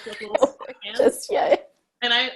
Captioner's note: laughs